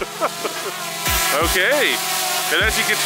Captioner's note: chuckles; drone propellers humming loudly